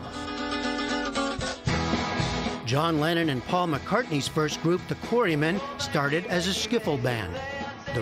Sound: voice-over

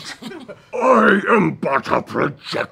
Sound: laughing

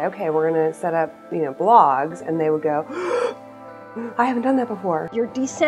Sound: gasp

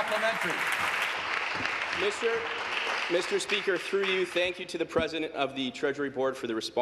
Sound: applause

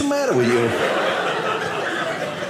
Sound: audience laughing

